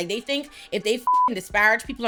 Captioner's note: beep